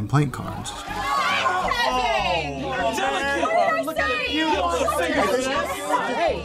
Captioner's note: shouting